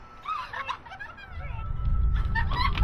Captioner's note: laughter